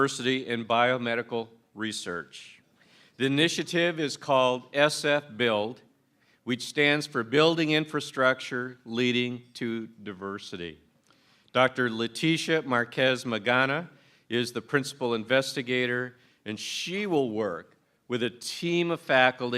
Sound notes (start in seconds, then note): none